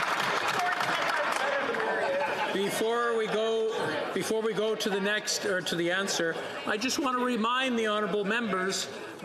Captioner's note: some Applause